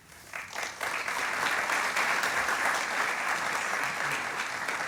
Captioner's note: audience applauding